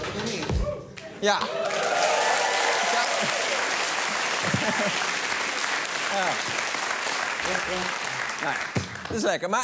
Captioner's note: cheering and applause